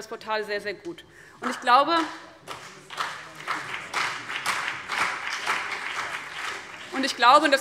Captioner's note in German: Beifall CDU und BÜNDNIS 90/DIE GRÜNEN